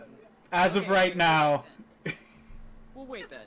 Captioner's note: laughs